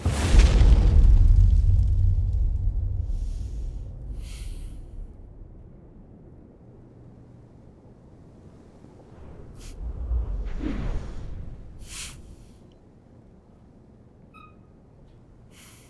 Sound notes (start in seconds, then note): 0.3 crackling flames; 2.4 breathing deeply